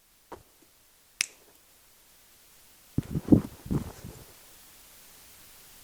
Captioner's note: messenger's fingers snap